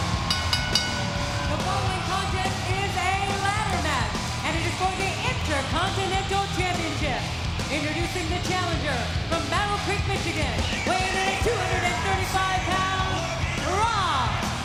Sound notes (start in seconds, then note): 0.1 bell ringing